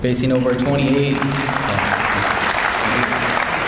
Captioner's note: audience applauds